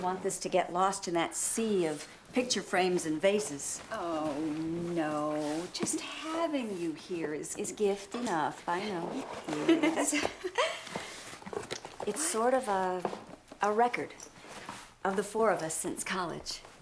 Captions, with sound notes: I didn't want this to get lost in that sea of picture frames and vases. Oh, no, just having you here is... Is gift enough, I know. Yes. (LAUGHS) It's sort of a record of the four of us since college.